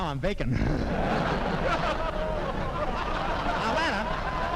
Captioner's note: audience laughing